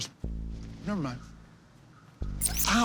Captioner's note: trilling